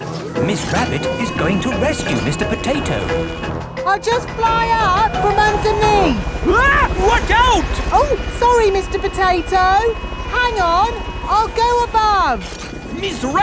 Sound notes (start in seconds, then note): 6.8 screams